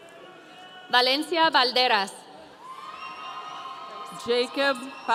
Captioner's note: audience cheering